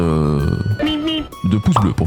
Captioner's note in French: extrait audio de Bip Bip et Coyote